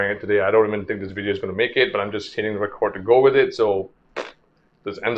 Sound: pffft

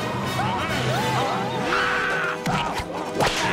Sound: screaming

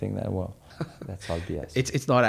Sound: chuckles

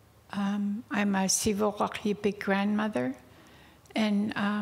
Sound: speaking indigenous language

